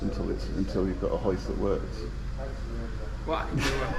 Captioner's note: laughs angrily